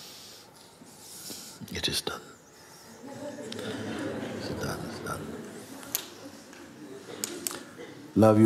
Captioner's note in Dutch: gelach